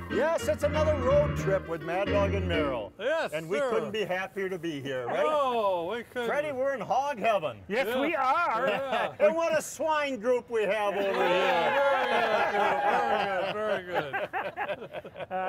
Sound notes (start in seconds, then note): 11.0 crowd laughs; 13.9 laugh